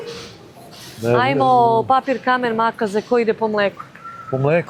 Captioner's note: snort